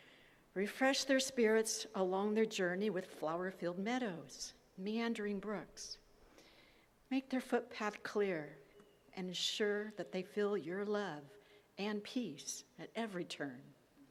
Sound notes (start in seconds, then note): none